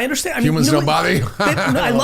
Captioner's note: laughing